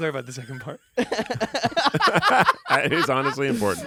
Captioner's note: everyone laughs